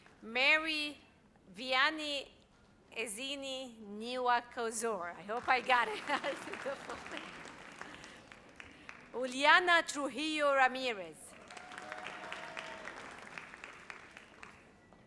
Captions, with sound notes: Mary Viani Azini Nivakozor. I hope I got it! (audience applauds) Juliana Tuhio Ramirez. (audience applauds)